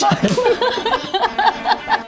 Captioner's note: laughing